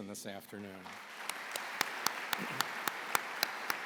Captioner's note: applause